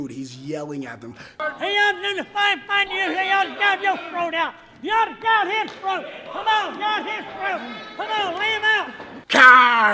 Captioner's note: old man shouting